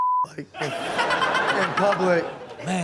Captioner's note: Chanel and audience laughs